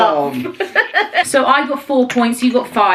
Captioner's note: laughing